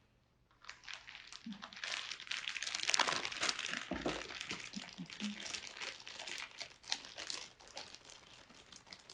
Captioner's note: rustling Sound